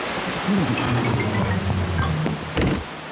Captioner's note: grunts